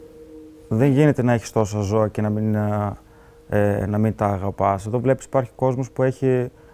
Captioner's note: speaking in foreign language